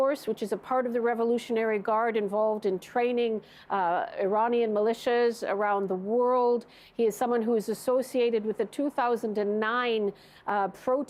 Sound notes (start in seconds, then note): none